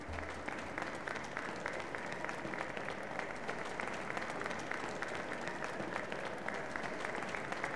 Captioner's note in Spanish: Aplausos